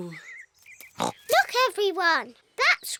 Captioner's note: oinks